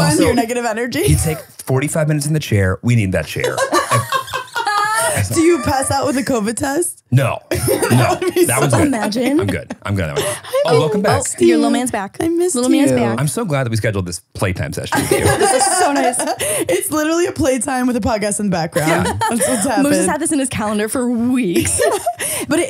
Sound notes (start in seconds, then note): 3.4 laughing